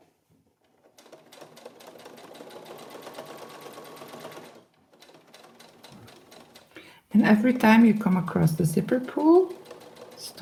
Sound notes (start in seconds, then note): 0.5 sewing machine whirring